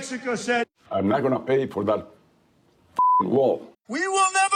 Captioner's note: beeping